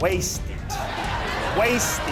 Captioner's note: laughing